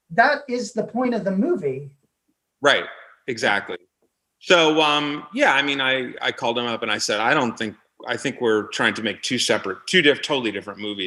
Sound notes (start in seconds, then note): none